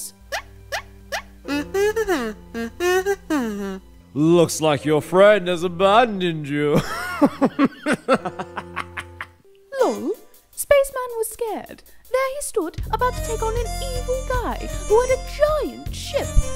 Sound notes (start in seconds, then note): 0.2 ⟡ Teleport Sound ⟡; 6.7 ⟡ Maniacal Laughter ⟡